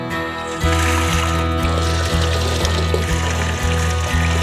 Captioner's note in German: Wasser plätschert